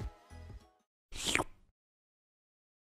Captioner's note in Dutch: slurp